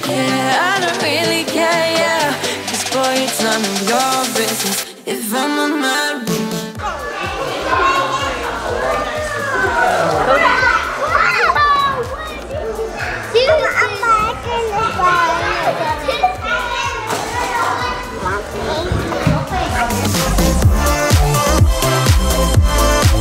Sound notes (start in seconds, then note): 8.0 children yelling; 20.4 upbeat music